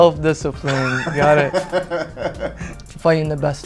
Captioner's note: Spice laughing